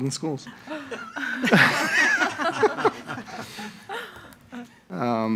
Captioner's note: all laughing